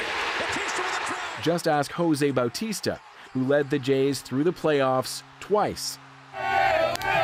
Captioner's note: cheers and Applause